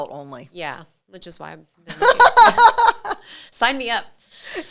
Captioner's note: laughing